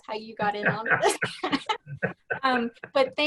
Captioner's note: laughing